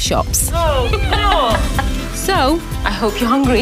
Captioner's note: woman laughs